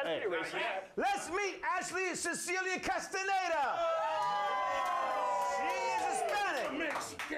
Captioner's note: audience cheers